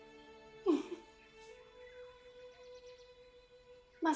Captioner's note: giggling